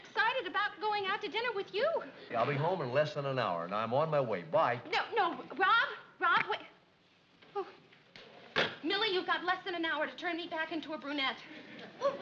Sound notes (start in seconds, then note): 6.6 click